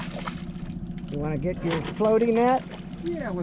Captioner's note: fish splashing